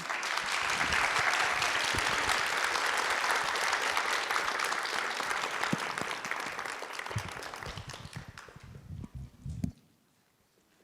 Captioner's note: audience applauds